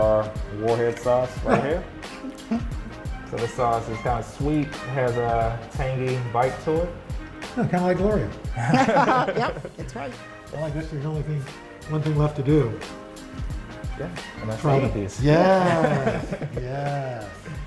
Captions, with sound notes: This is our warhead sauce right here. This sauce is kind of sweet. Has a tangy bite to it. - Kind of like Gloria. (laughter) - Yep! That's right. - One thing left to do. - Gonna eat these. - Yes!